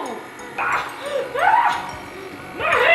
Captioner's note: fake screaming